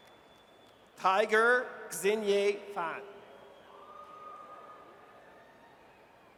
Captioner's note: audience cheers